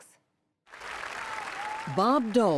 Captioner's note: cheering and applause